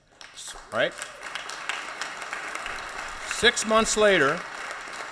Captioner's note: clapping